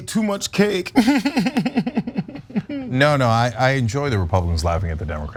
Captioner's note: laugh